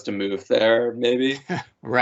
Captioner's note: laughing